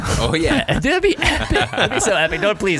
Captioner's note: laughing